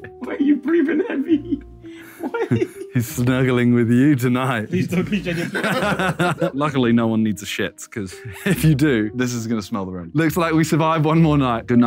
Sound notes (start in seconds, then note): 2.0 laughing; 5.3 all laughing